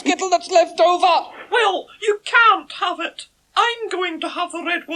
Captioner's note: shouting